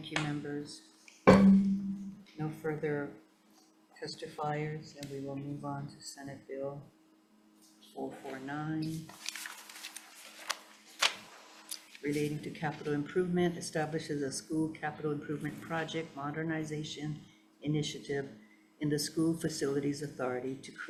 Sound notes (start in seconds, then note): 1.2 chair thudding; 8.8 paper rustling